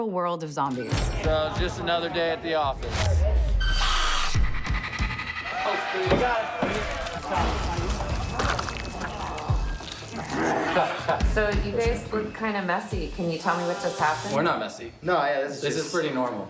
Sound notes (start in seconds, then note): 2.9 snarls; 5.4 gorging, groaning loudly; 5.4 moaning